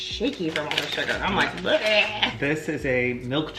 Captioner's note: shouts quietly